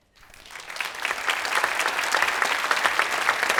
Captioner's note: audience applause